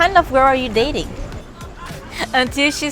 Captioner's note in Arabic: ضحك